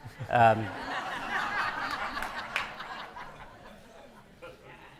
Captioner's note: audience laughing